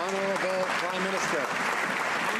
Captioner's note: some Applause